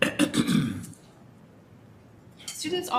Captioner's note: clears throat